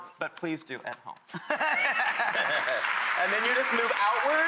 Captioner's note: laughing; applauding